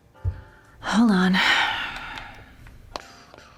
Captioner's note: sighs